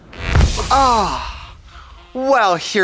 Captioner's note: electricity buzzes